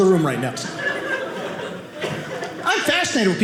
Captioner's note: audience laughing